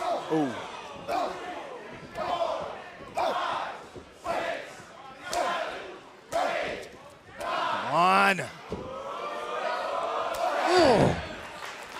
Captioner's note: crowd cheering